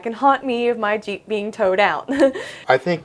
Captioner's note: chuckles